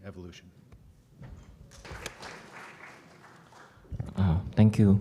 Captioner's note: applause